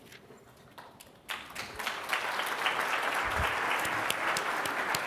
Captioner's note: applause